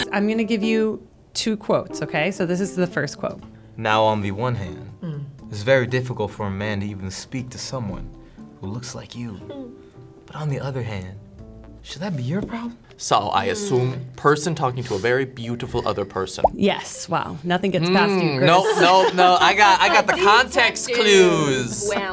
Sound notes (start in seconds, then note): 19.5 laughing